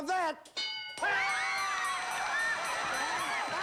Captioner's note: applause